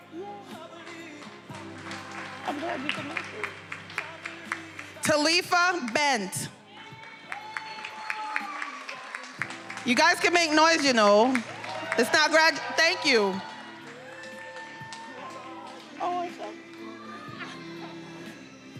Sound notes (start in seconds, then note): 3.1 speaks faintly; 6.7 attendees applauding and cheering; 11.6 attendees cheering and applauding